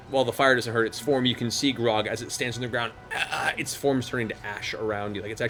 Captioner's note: groaning